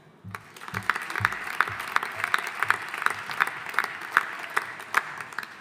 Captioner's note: audience applauding